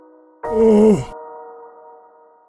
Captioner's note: moans